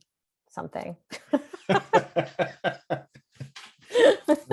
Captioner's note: laughing